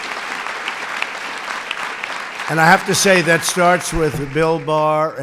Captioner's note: applause